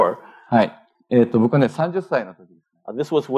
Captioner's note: speaking japanese